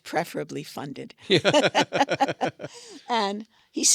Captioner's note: both laugh